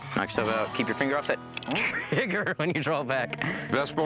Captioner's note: laughs